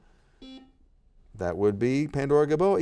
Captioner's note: buzzer beeps